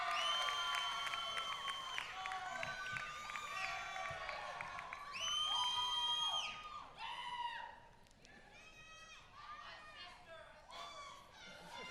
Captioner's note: applause